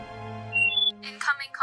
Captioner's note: Comlink sound